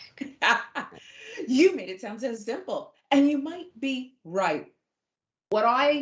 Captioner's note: laugh